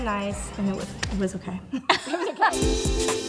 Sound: laughs; gentle music

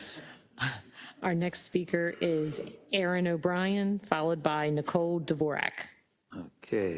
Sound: laugh

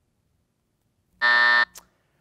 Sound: buzzer sounds

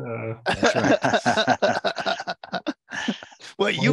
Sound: laughter

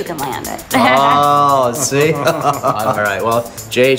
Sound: laughs

